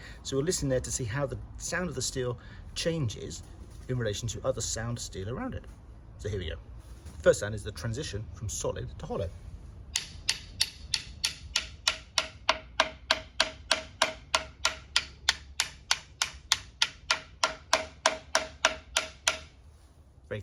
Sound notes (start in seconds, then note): 13.5 tapping sounds